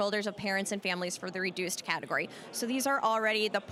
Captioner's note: none